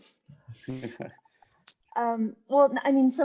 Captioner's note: laughing